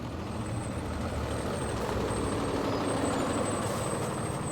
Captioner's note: bus breaks squeak